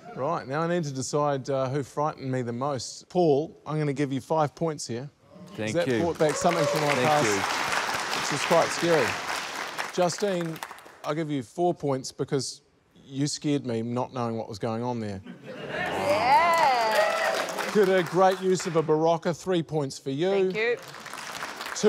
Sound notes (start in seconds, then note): 9.0 cheering, applause; 15.2 laughter